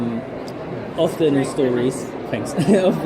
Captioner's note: chuckles